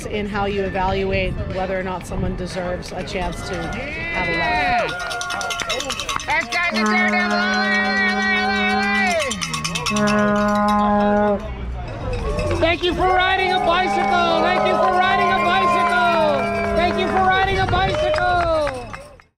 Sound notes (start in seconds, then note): 5.1 spectator's cheering, cowbells; 9.3 vuvuzela sounds, cowbells, cheering